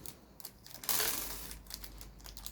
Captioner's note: m2 screws poured out